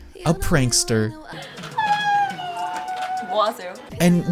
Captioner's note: strange animal noises